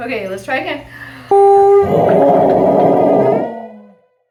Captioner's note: dog howls